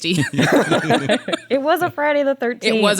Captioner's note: laughs